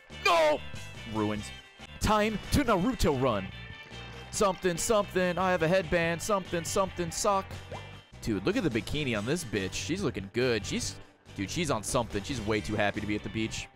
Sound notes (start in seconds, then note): none